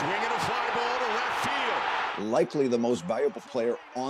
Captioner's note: cheers and Applause